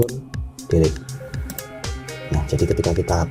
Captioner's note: click